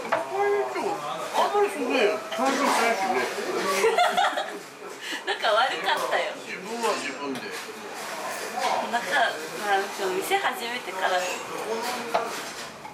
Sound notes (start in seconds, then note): 6.3 laughs